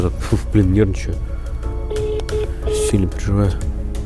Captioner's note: dial tone